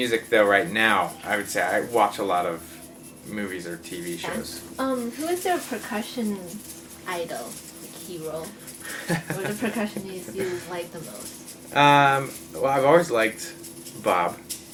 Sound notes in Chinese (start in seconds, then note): 8.9 乾笑